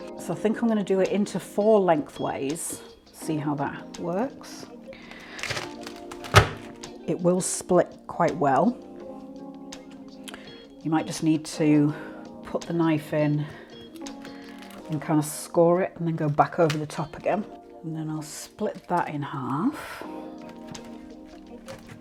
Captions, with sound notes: So I think I’m going to do it into four length ways see how that works [CRACK] It will split quite well, you might just need to put the knife in and kind of score it, and then go back over the top again And then I’ll split that in half